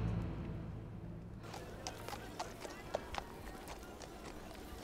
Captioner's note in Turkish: Nal sesleri